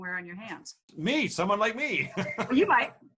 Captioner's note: laughs